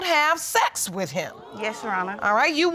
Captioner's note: audience exclaims